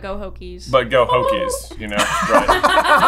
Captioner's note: strangest tongue noise ever; laughter